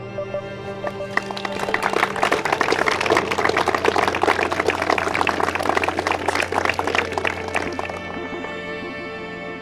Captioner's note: audience claps